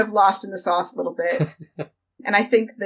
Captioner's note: laughs